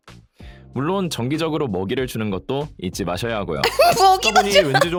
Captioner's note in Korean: 웃음